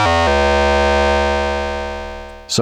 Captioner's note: alarm beeping